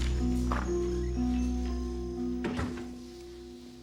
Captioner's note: dramatic music; door opens